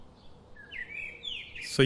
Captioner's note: birds chirping